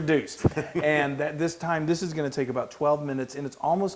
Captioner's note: laugh